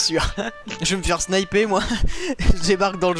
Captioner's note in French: rire